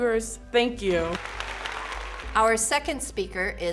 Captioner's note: applause